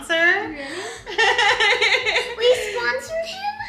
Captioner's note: gasping and laughing in excitement